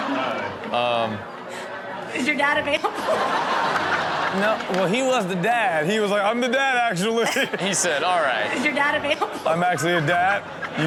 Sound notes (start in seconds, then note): 2.8 audience laughing; 2.8 laughing; 6.9 laughing